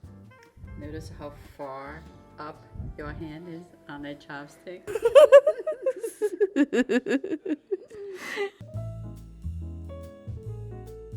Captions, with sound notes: Notice how far up your hand is on that chopstick? [Giggles]